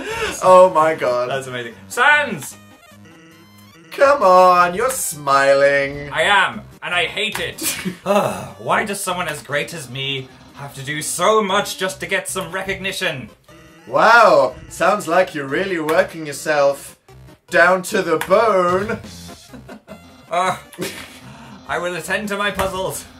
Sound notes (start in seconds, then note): 7.6 laughs; 7.7 le sigh; 18.8 chuckles